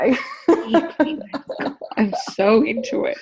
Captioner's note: laughs